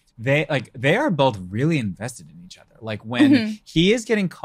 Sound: laughs

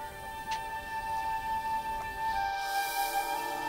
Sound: birds chirping

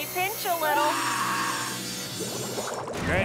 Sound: screaming

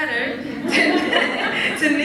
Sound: laughs

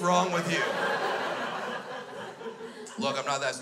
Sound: crowd laughs

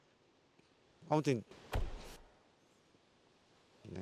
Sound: 'Bang' sound is heard

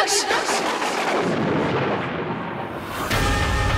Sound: thundering

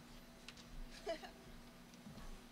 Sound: laughing

